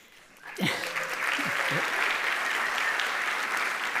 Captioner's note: audience applauding